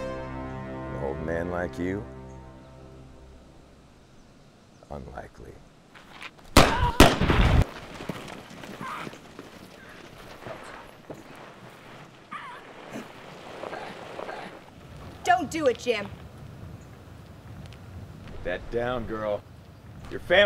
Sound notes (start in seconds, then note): 6.5 gun firing; 13.6 groaning